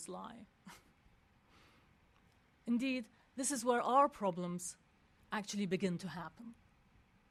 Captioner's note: laugh